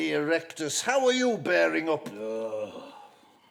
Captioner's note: pinter groans